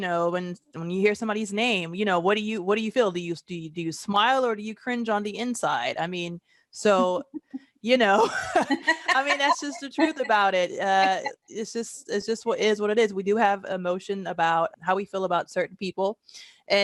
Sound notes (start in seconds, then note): 8.2 chuckling